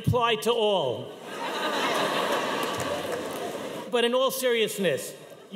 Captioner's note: audience cheering